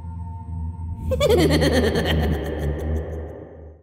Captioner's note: man laughing sinisterly